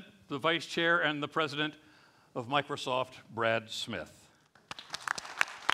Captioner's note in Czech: Potlesk